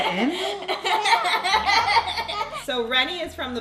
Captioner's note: laughing